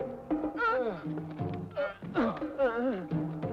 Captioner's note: groaning